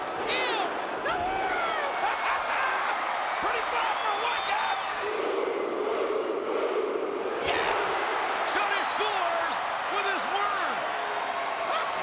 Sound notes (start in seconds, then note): 1.9 laughs